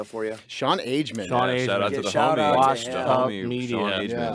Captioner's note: group chattering